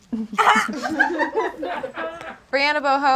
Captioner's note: audience laughs